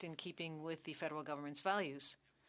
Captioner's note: speaking French